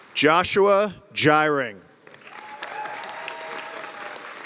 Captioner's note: applause; cheers and applause